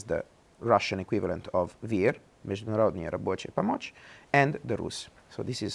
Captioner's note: speaking Russian